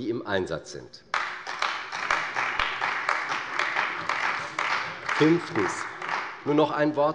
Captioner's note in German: Beifall bei der CDU und bei Abgeordneten der FDP